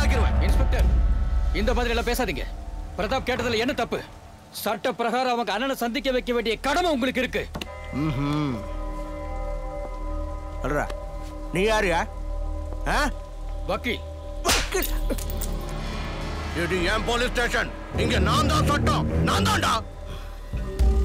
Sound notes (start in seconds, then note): 15.0 slapping